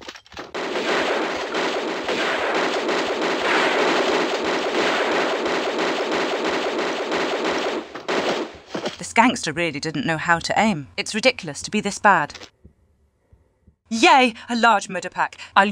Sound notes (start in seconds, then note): 0.7 pew pew pew pew pew; 4.7 PEW PEW pew pew; 7.2 pew pew